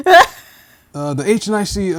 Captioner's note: laughing